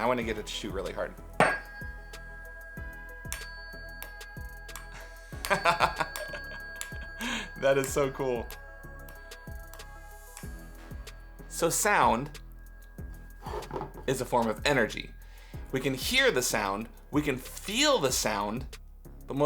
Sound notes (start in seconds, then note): 5.6 laughing